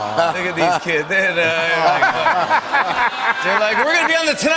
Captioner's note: laughs